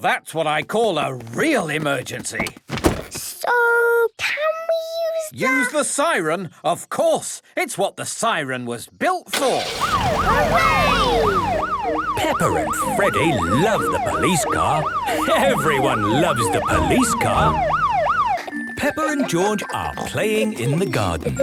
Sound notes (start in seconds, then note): 10.2 siren